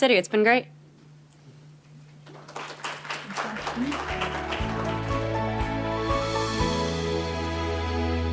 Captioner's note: applause